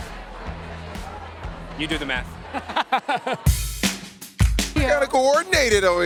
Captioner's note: laughs